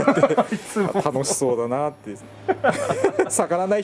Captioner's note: laughs